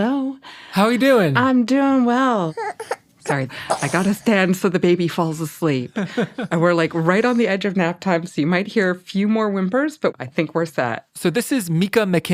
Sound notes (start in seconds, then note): 2.4 baby whimpers